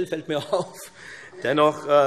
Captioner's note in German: Heiterkeit